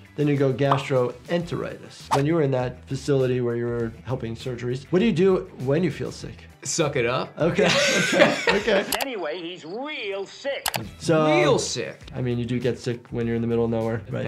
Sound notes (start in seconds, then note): 7.6 laughs